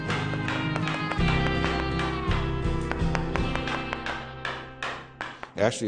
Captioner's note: hammering